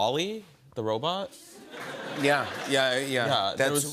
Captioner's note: laughter